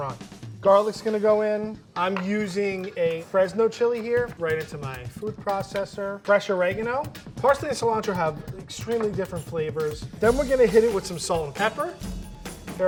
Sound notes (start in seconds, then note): none